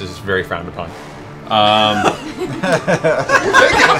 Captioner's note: laughter